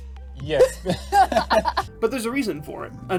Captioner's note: laughing